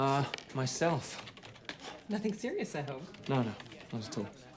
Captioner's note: keyboard clacking